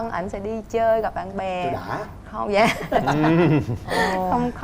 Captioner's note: laughing